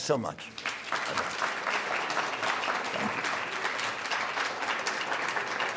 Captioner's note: audience applauding